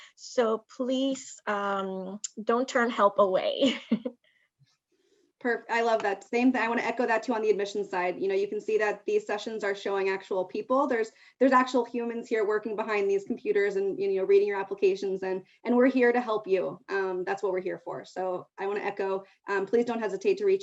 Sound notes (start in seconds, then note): 3.7 chuckles